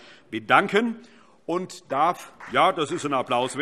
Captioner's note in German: Allgemeiner Beifall